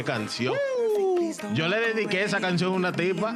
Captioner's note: speaking In Foreign Language